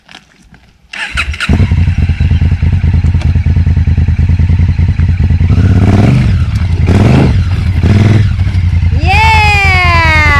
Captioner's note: engine noise